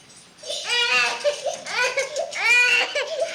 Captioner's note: crying